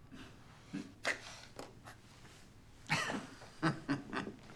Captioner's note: laughs